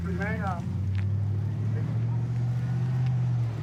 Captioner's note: truck driving